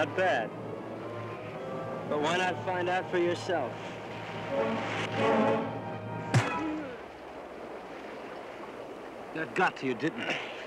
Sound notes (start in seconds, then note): 6.3 loud thud; 6.7 moaning